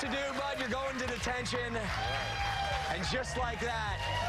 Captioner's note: applause